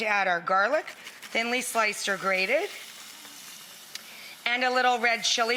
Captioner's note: pan sizzles